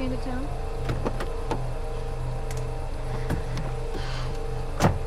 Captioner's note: door unlatching; door slams